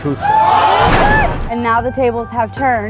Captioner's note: audience exclaims in disbelief